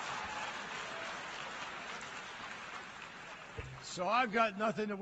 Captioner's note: cheers